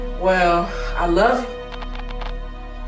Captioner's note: static